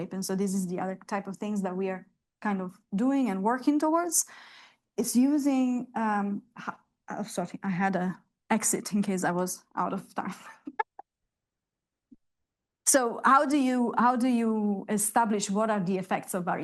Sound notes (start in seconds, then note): 10.6 laughs